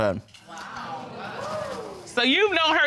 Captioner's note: audience exclaiming